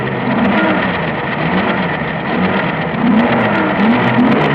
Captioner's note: engines revving